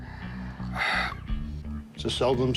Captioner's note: sighs